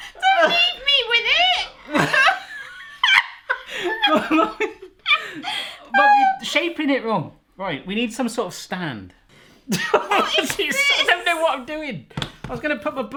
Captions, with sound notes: Don't leave me with it (laughing hysterically) - You're shaping it wrong. We need some sort of stand (laughing) I don't know what I'm doing,